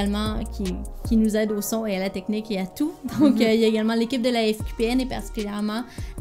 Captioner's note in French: rires